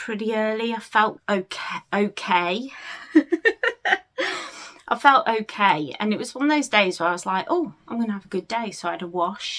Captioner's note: laughs